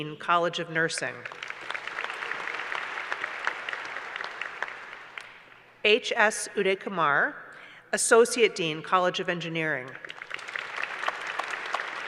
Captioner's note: applause